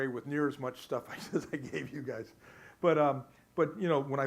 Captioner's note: laughs